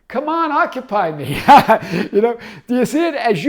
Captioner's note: laughs